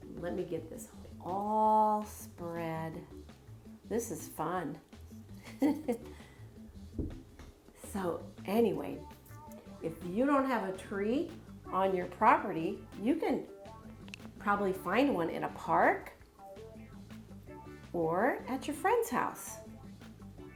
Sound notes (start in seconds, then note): 5.3 chuckles